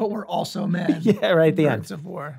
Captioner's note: chuckles